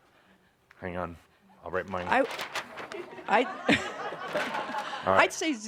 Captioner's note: laughter as he writes a number then hides it